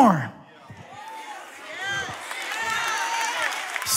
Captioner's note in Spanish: Aplausos